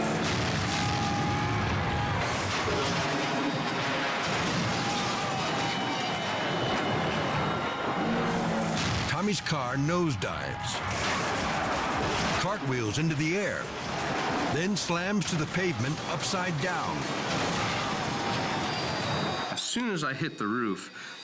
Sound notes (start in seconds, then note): 0.1 car exploding; 1.5 crowd screaming; 3.9 car crashing; 5.4 dramatic music; 10.7 car crashing; 16.9 car crashing